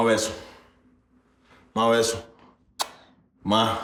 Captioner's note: speaking Spanish